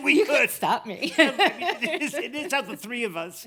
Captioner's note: laughs